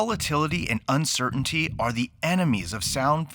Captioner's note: heart beating